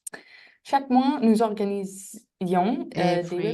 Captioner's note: speaking french